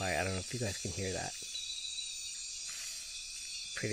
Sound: sounds of the jungle

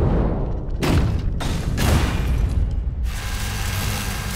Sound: guns firing

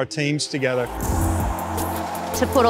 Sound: people cheering

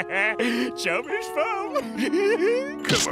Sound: laughing

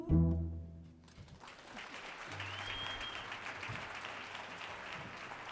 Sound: audience applauds

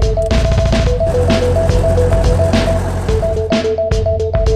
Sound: helicopter engine

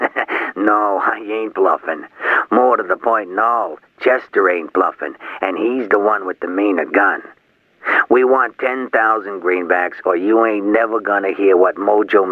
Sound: chuckle

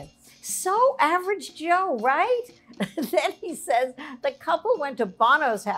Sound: chuckles

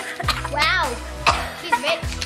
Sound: coughing

